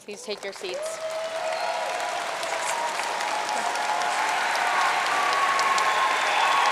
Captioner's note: audience cheering and applauding